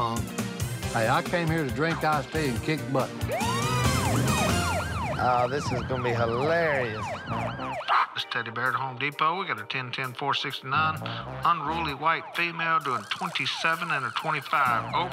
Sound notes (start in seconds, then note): 3.1 siren wailing